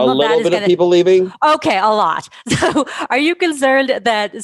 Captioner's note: laughs